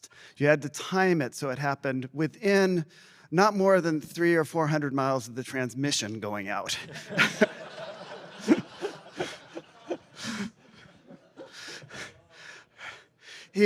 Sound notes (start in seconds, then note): 6.8 laughter